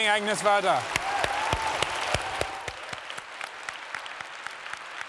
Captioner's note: applause